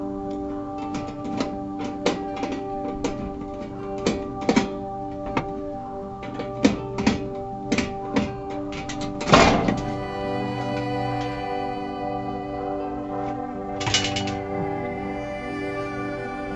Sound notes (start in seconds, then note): 0.0 ambient music; 2.0 metal clanking; 9.8 ambient music